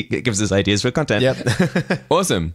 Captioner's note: laughs